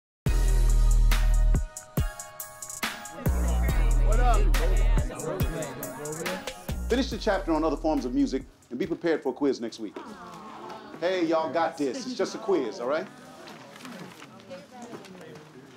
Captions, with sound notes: [indistinct chatter] - What up? - Finish the chapter on other forms of music and be prepared for a quiz next week. [all groan] Hey, y'all got this. It's just a quiz, all right?